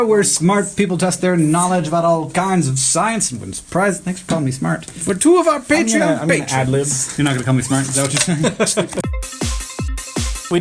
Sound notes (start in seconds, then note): 3.9 normal voice; 8.0 laugh; 9.0 fast-paced transition music